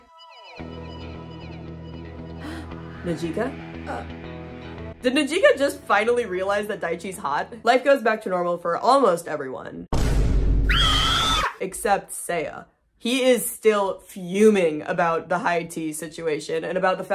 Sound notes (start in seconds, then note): 0.1 gasp; 8.8 scream; 9.9 boom